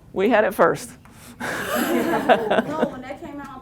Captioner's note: laughter